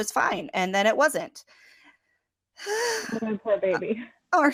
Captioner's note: sigh